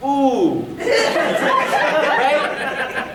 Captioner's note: audience laughing